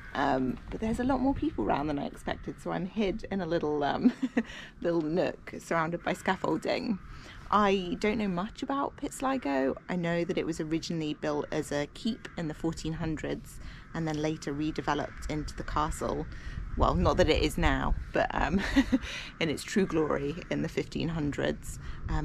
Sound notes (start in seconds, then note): 3.8 laughs; 18.4 laughs